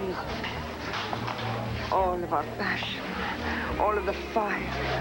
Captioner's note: italian accent